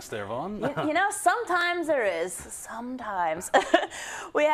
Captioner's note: laugh